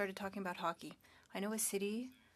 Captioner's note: speaking French